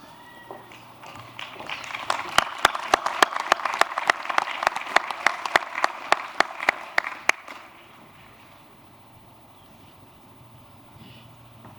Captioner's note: applause